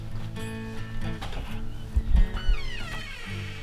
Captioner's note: door opens